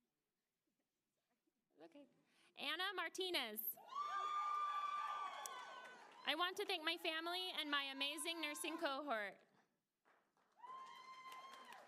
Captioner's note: applause